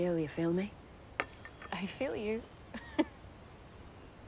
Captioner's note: chuckling